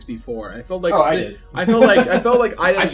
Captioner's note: laughs